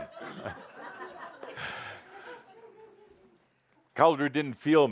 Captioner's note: laughter as he pesters Jean